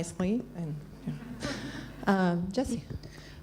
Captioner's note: laughs